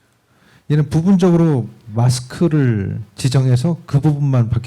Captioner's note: speaking korean